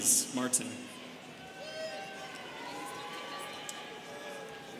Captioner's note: students cheering